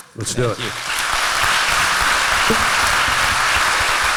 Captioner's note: applause